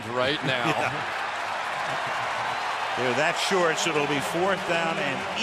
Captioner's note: laughs